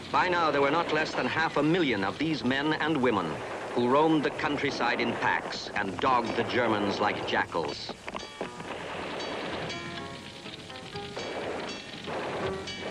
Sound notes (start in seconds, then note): 9.0 guns firing